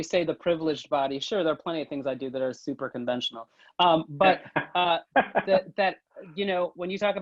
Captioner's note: laughing